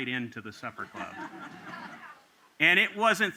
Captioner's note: laughter